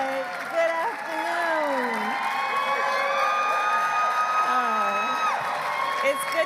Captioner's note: applause